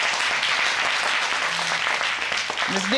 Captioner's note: audience applauding